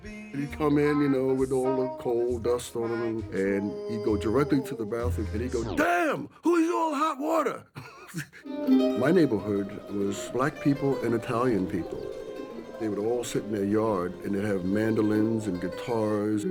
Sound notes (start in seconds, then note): 7.8 laughs